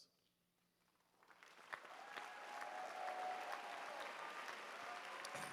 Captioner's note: applause